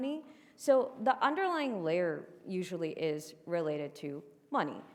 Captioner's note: none